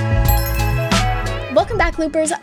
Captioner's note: smooth music; logo sparkling